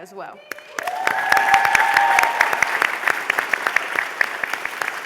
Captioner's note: applause, cheering